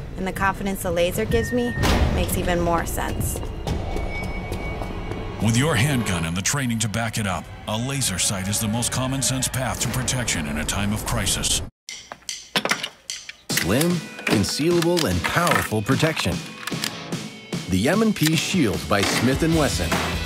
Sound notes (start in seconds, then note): 3.1 running footsteps; 5.2 voiceover